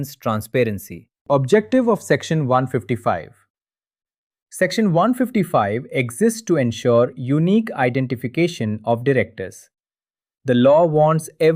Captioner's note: thoughtful